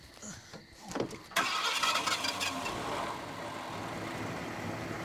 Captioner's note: engine starting